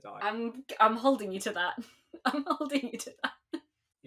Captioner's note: laughing